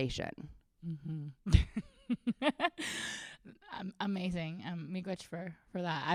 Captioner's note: laughs